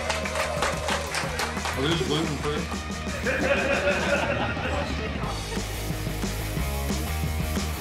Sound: haha

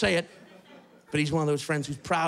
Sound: laughter

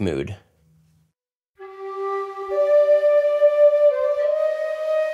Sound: whistles blow

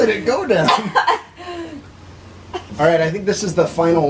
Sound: coughing

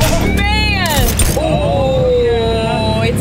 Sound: engine revs

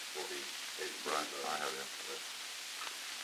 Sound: Murrow, mumbling

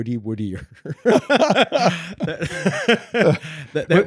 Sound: laughing

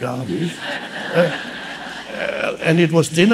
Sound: audience laughing

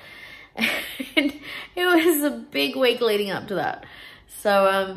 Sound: laughing

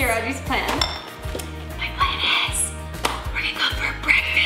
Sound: stage whispering

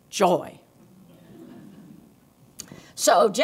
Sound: laughter

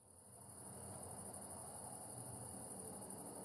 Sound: crickets

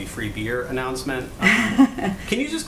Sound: laughs

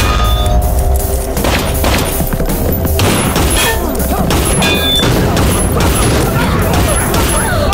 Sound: gunshot

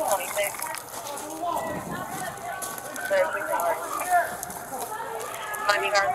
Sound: background talking; background hollering; radio dispatching in background

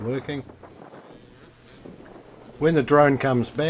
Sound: motorbike engine revving

